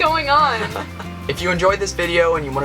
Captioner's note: laughing